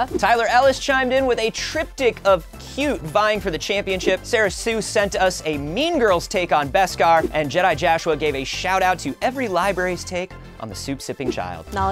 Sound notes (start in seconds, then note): none